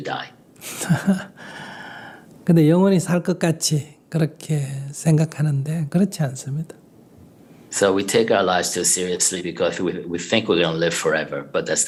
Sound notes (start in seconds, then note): 0.6 laughter